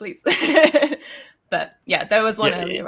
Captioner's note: laughs